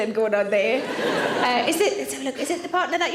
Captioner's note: audience laughing